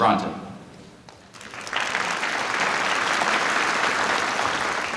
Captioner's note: applause